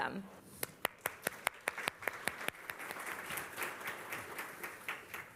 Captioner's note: applause